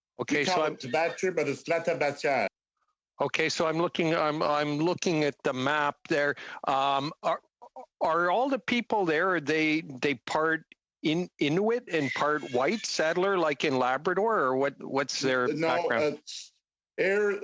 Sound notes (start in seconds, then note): 5.2 speaking French